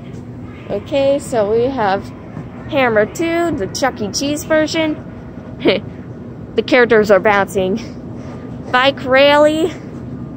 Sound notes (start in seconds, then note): 5.6 cute Laugh🥰